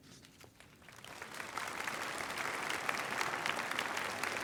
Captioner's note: applause